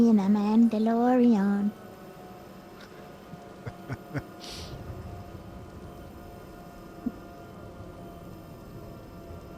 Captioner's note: laughs